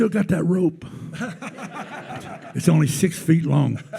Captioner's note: attendees laughing